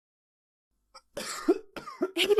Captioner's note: Aiden coughs